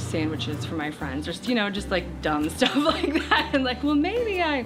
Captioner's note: laughs